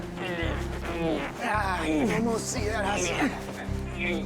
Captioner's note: groaning